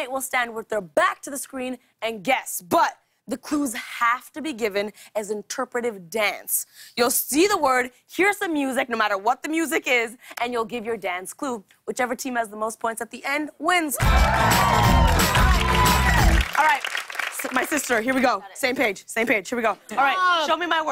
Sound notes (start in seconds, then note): 14.0 cheers and applause